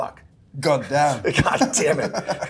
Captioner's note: laughs